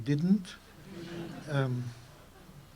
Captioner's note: laughter